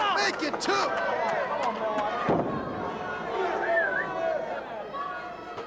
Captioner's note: crowd chatter